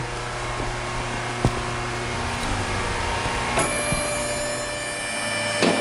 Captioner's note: loud machinery sounds